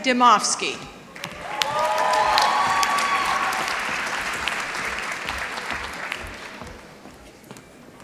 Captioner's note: applause